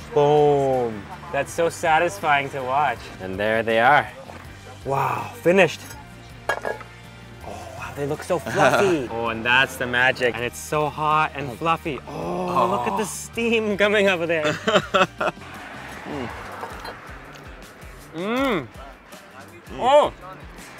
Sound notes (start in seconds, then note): 6.4 ladle clunks; 8.5 chuckles; 14.4 laughs; 16.2 car engine humming; 16.2 moans